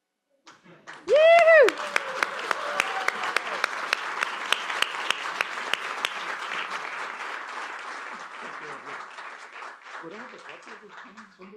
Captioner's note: applause and Cheering